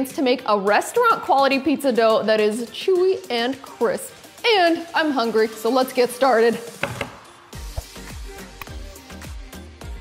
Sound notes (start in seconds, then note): 6.8 hands tapping